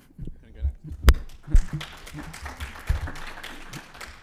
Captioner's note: applause